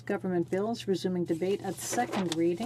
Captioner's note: speaking French